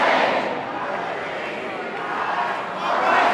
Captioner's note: chant